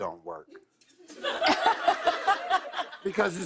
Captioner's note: laughter